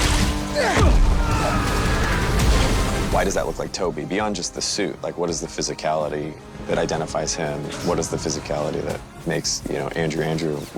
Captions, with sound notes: [Spider-Man grunts] [shouts] Why does that look like Tobey, beyond just the suit? Like, what is the physicality that identifies him? What is the physicality that makes, you know, Andrew, Andrew?